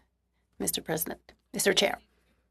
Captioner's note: speaking french